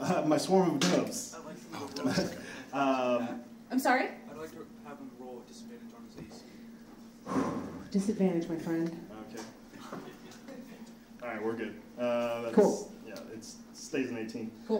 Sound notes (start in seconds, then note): 1.4 audience laughs